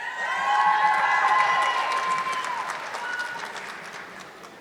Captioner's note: audience clapping